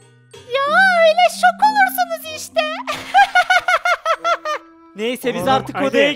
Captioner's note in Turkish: Gülme sesi